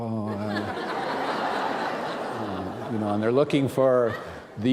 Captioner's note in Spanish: risas